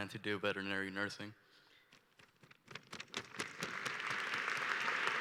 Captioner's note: applause